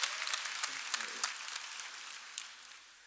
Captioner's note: cheers and applause